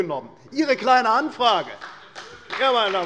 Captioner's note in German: Beifall bei der CDU - Zurufe von der FDP